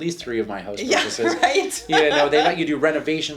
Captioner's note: laughs